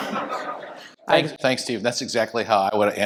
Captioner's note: laugh